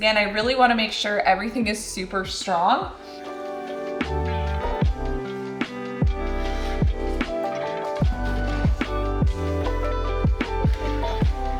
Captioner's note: drilling